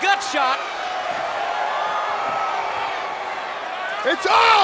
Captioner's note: crowd cheering; Paul exclaiming